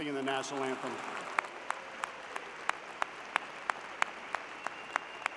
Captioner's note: louder cheering